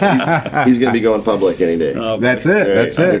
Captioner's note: laughing